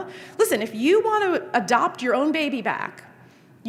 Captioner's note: none